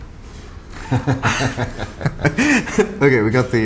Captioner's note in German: lacht